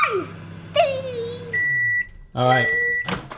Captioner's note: beep